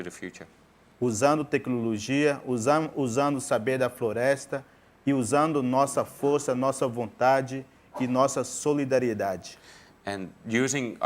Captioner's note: speaking in portuguese